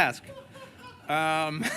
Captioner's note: laughter